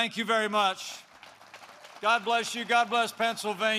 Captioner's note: applause